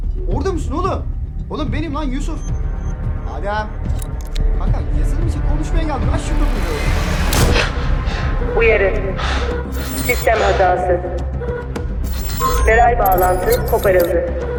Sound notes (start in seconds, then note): 7.2 gunshot